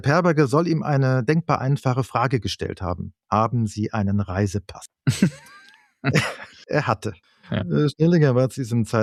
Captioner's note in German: gelächter